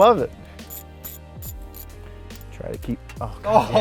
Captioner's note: screwdriver cranks; laughs